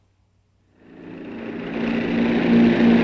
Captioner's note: Wing humming